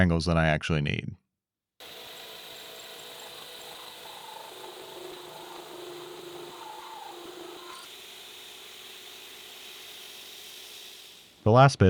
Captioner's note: machine whirring